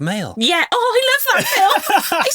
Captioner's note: laughing